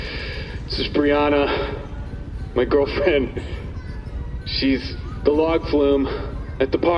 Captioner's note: sigh